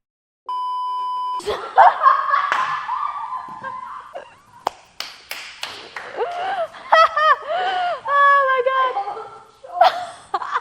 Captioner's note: laughs